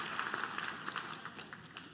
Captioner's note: applause